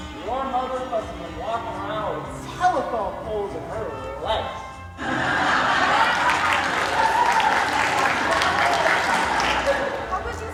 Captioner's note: applause